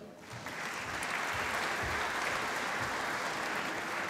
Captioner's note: applause